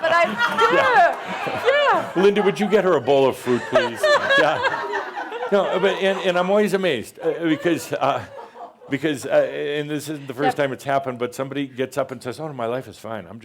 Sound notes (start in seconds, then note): 4.4 more chuckles